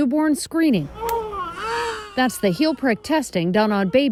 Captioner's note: baby crying